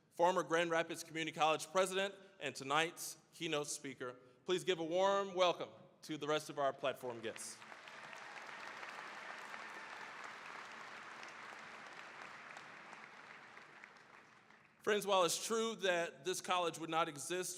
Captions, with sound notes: former Grand Rapids Community College President and tonight's keynote speaker. Please give a warm welcome to the rest of our platform guests. (cheering, applause) Friends, while it's true that this college would not exist